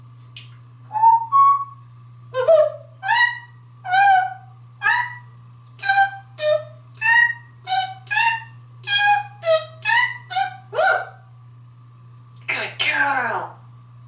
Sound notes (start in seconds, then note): 0.8 Whistles his version of the Andy Griffith theme song